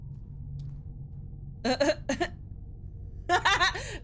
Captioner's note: laughs